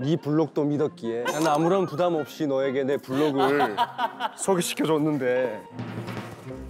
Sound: he just laughs

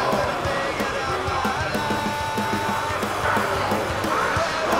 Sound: zombie growling

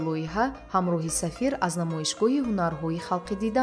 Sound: journalist narrating in tajik

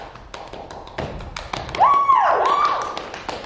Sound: clapping

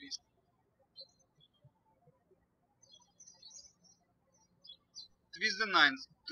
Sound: birds chirping

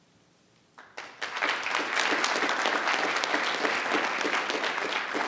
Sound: everyone applauds

